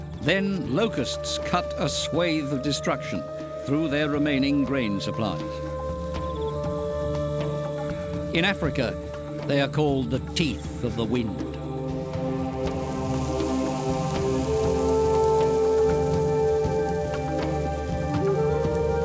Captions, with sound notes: Then locusts cut a swathe of destruction through their remaining grain supplies. [soft drumming] In Africa, they are called "the teeth of the wind". -[men chanting] -[locusts fluttering] [flute and drums]